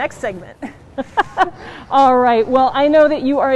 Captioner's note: laughing